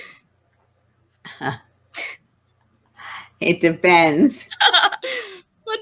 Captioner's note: laughs